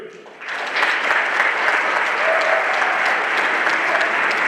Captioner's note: everyone applauding